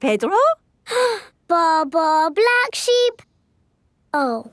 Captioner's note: inhales